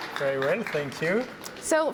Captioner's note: applause